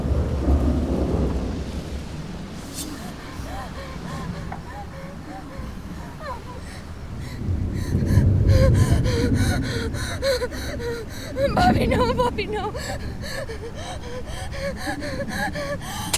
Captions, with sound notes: (Veronica gasping) - Bobby, no, Bobby, no.